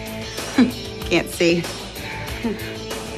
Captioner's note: chuckles